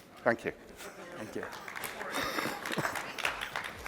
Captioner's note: applause